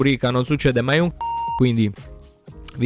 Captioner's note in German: piep